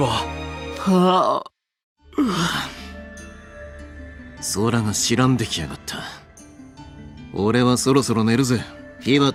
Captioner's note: yawn